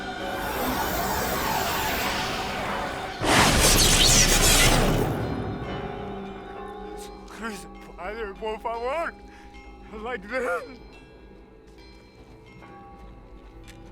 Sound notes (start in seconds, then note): 7.0 speaks in spanish